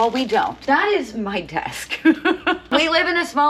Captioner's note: laughs